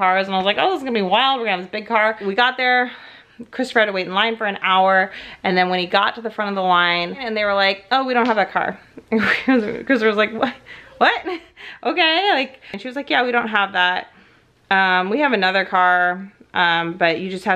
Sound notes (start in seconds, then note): 9.0 laughs